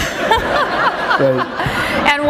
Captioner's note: laughter